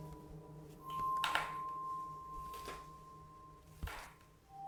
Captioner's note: stairs creaking